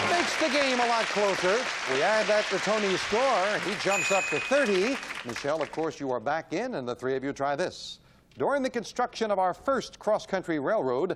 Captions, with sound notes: -He hits a $10 money card. That makes the game a lot closer. We add that to Tony's score. (ding) -He jumps up to 30. Michelle, of course, you are back in, and the three of you try this.